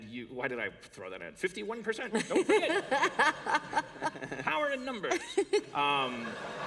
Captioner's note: laughter